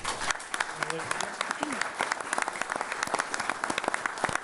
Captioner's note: all applauding